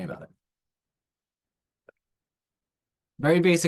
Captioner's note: silence